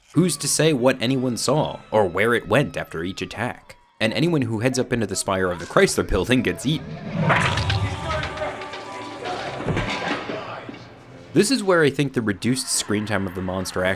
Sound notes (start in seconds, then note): 6.5 monster roaring